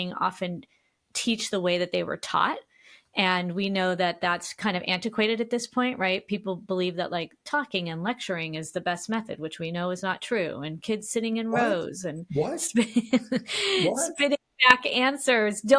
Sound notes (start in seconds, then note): 12.4 laughs